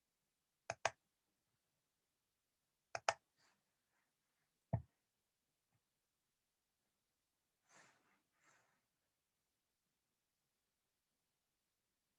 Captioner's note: intermittent keyboard clicks